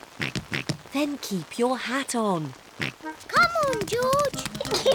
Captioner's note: oinking; oinks; giggles